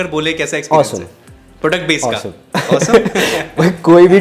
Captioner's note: laughs